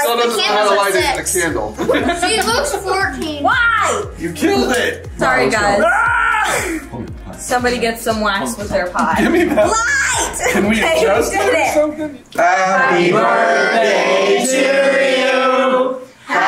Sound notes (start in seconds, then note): 1.7 laughs; 5.7 groans